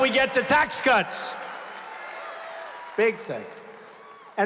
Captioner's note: applause